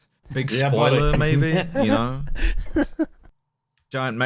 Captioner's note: laughs